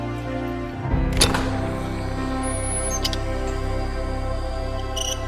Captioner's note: gate squeaks while closing